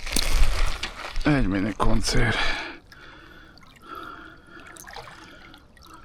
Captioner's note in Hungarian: sóhajtás